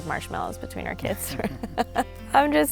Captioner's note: laughs